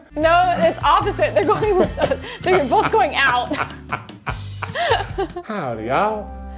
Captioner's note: laughing